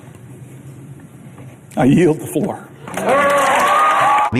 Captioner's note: applause